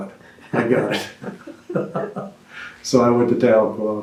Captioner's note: laughs